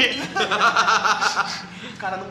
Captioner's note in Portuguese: risos